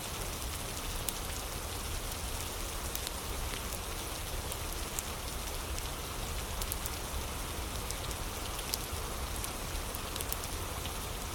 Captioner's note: fire crackling